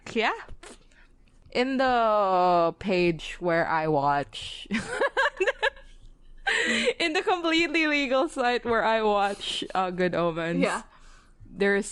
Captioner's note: laughs